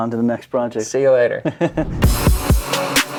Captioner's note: laughing; intense music